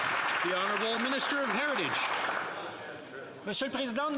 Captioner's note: some Applause